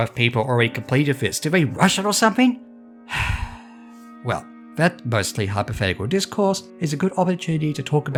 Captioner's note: sigh